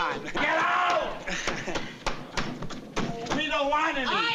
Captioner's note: banging